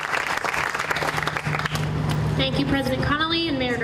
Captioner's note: applause